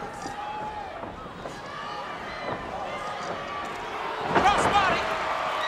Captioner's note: crowd cheering